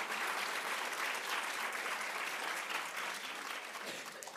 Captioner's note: applauds